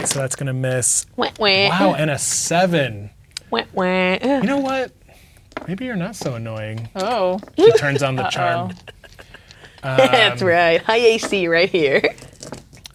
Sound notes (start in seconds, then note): 0.8 dice rolling; 7.0 laughs